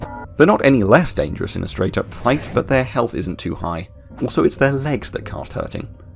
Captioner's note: none